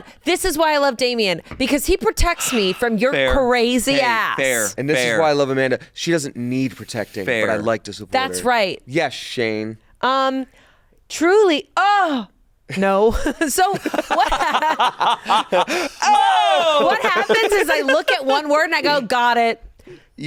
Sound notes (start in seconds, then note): 13.1 all laughing